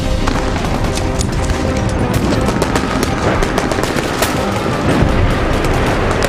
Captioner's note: intense orchestral music; guns firing